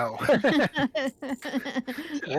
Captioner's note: laughing